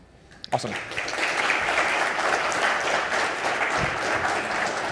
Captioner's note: audience applauding